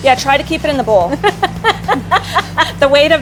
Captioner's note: laughing